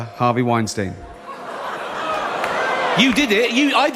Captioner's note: A chorus of boos erupted from the audience